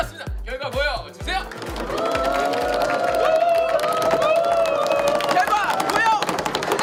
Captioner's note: crowd Cheering